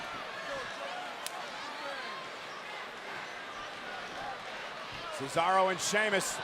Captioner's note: applause